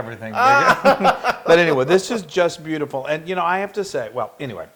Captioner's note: laugh